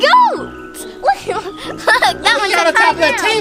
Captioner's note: laughs